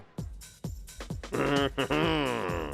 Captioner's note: chuckles